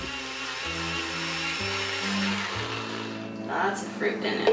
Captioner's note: blender whirring